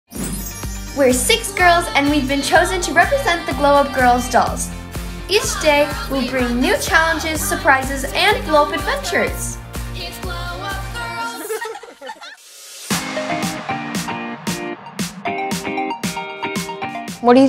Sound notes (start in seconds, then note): 11.0 girls laugh; 13.5 bright upbeat music